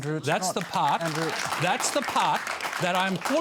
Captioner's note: applause